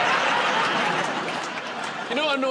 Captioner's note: laughter